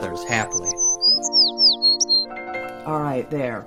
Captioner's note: bird chirping